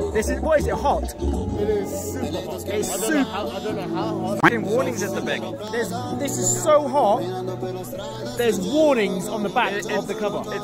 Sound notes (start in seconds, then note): 3.5 stuttering